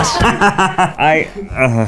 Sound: laughing; man sighs

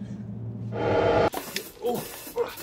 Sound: time start sound

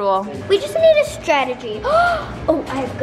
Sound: gasps

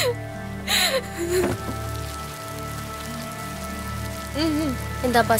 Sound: heavy rain sounds

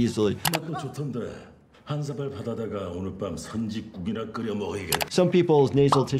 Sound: mouse clicks; man speaking in foreign language; mouse clicks

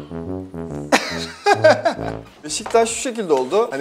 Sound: laughter

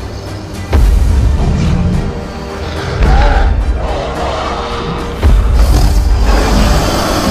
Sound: stomping Sounds; Sarcosuchus Hiss and Growls

